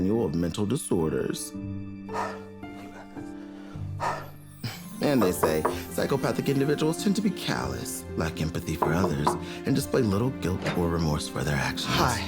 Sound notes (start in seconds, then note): 1.8 Dooley exhaling